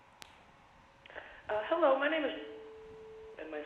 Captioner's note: on phone